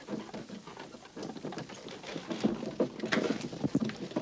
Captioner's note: clip-clop